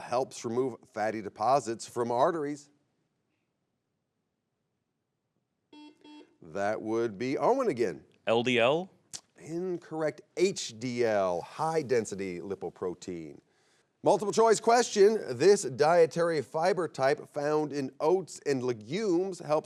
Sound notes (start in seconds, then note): 5.7 buzzer beeps